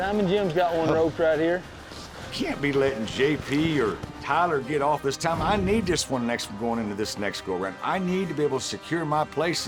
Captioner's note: none